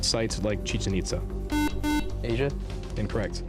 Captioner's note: buzzer